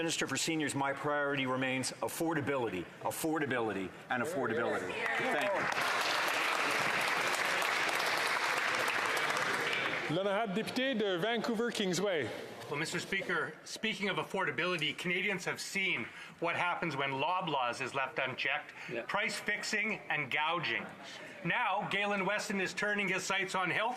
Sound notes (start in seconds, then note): 13.9 speaking French